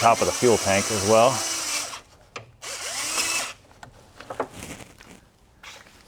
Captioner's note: drilling